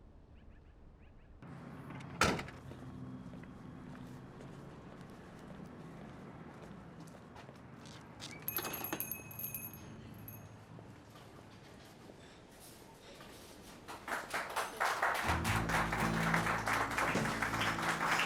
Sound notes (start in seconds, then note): 2.1 truck door closes; 3.9 footsteps; 8.4 door opens, bells jingle; 9.6 footsteps; 13.7 diners all applauding